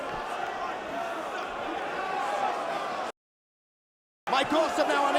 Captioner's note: crowd chattering